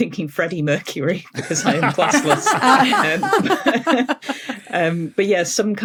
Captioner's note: group laughing